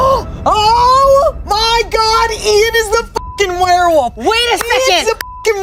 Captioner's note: beep; beep